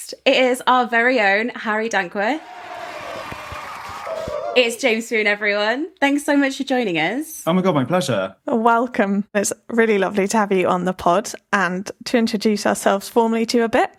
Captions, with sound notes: It is our very own Harry Dankworth. (crowd cheering) It's James Phoon everyone. Thanks so much for joining us. - Oh my God, my pleasure. - A welcome, it's really lovely to have you on the pod, and to introduce ourselves formally to you a bit.